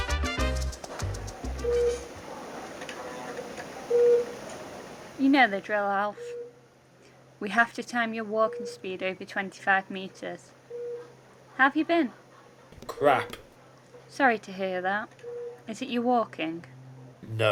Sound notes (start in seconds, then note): 1.5 machine beeping